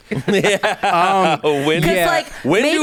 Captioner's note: everyone laughs